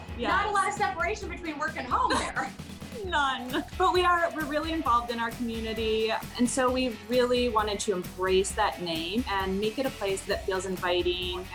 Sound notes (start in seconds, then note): 1.8 laughing